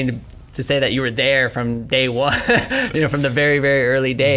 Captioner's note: laughs